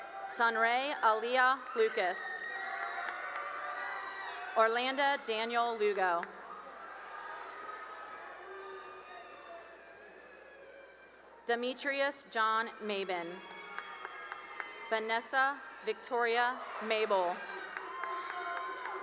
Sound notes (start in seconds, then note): 0.0 cheering; 2.3 cheering and applause; 9.0 cheering; 12.4 cheering and applause